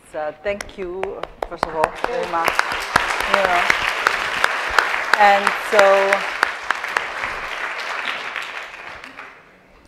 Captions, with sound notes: Thank you, first of all, very much. (audience clapping) And, so, yes.